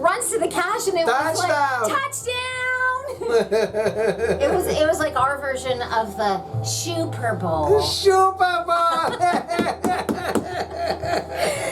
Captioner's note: laughing